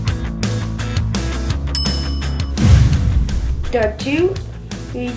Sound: upbeat guitar music; bell ring

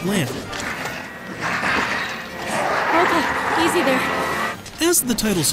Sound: growls

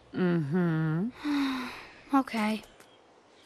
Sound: sighs

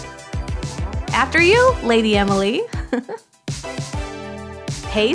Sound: chuckle

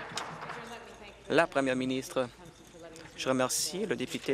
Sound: applause

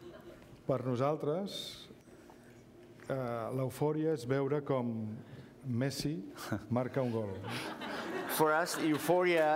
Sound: speaking catalan

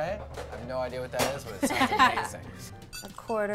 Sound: ladies laughing

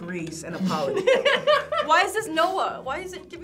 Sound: group laughs

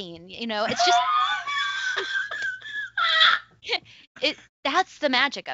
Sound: laughs

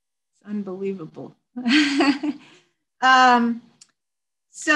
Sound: chuckles

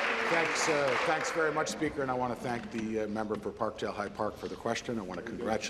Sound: applause

